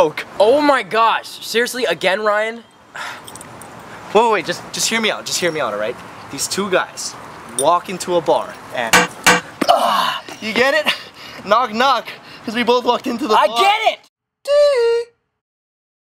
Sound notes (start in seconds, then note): 9.2 knock; 9.7 grunts